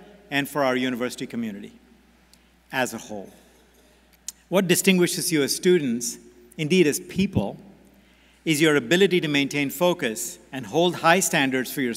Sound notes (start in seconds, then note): none